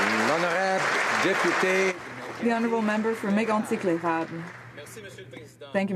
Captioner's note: applause